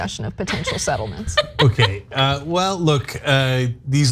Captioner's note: laugh